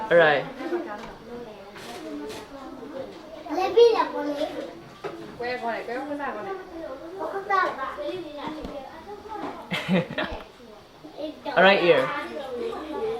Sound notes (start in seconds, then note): 0.0 foreign language; 9.6 chuckles